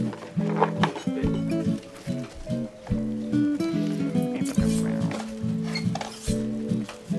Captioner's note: students murmuring; implements chiming